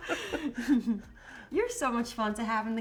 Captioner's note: both laughing